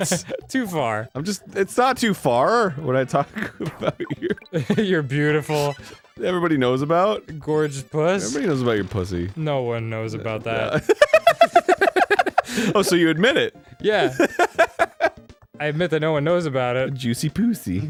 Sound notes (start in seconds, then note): 11.2 infectious high-pitched laughter